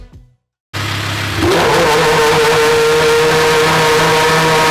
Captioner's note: engine sound